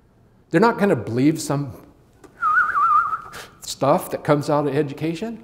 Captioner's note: whistling